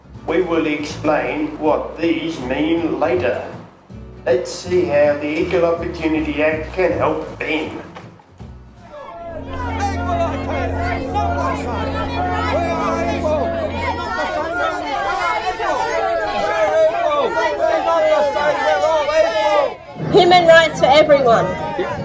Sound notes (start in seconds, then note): 8.8 voices of angry protesters